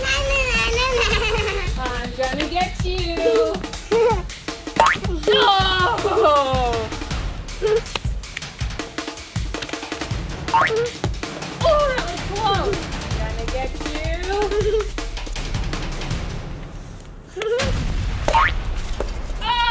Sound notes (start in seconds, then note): 4.7 bouncing; 10.5 bouncing; 14.2 giggling; 15.3 bouncing